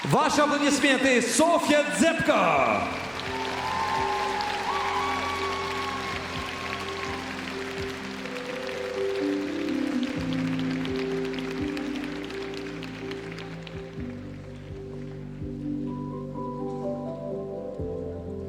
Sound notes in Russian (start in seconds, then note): 3.7 аплодисменты